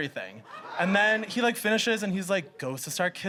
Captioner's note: audience shrieks in disgust